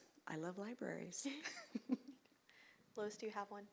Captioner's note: laughs